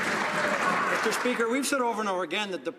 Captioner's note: some Applause